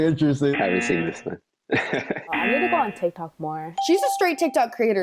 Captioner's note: chuckles